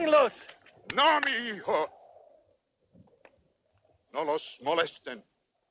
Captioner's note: Victorio speaks Spanish